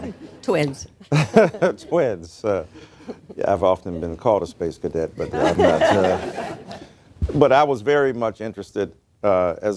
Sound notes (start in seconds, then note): 1.0 laughter; 2.6 laughs; 5.2 laughter